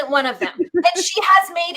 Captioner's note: laughing